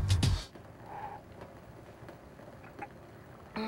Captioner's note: blowing